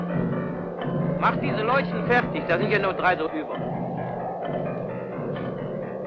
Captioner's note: speaking in a foreign language